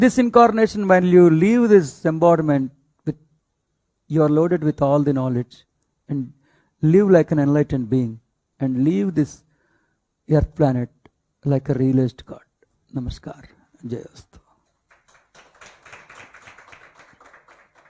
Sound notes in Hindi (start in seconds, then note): 14.8 तालियाँ